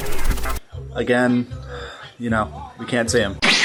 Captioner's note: sigh